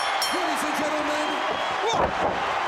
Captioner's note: bell ringing; crowd cheering